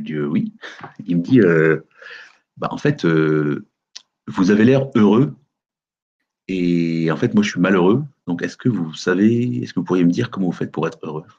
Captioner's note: light chuckle